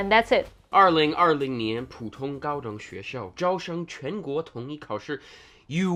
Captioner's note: speaking in Mandarin